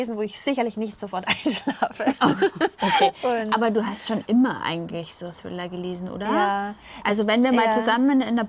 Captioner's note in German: gelächter